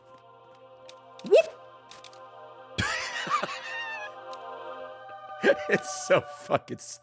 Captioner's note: laughs